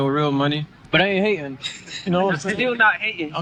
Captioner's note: laughing